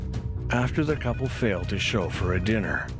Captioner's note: phone ringing